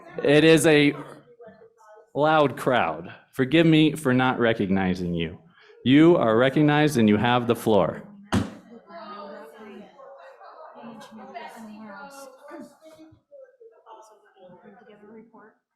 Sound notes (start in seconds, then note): 8.3 gavel taps